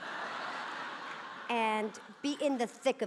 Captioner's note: audience laughing